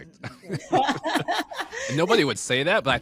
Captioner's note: all laughing